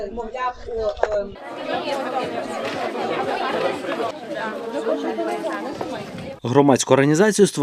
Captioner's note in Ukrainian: Гомін дітей і дорослих